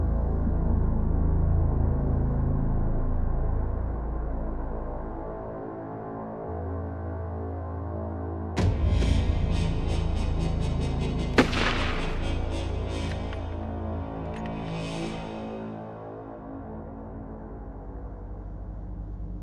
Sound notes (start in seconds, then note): 8.6 chilling music; 11.4 gun fires; 16.0 soft ominous music